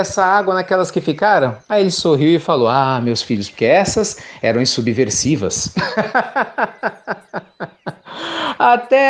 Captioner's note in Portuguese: Risos